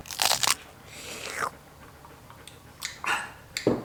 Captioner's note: pie crunching; slurping